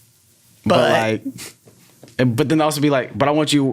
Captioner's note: chuckles